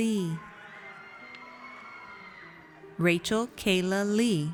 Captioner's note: audience cheers